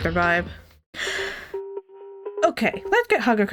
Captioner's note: deep Inhale